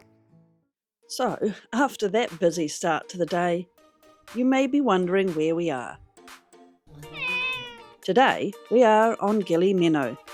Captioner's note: cat meow